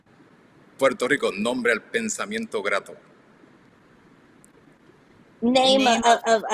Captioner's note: speaks in foreign language